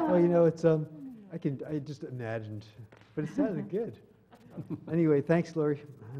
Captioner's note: laugh